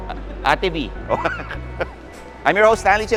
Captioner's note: laughs